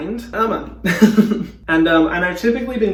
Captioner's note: laughing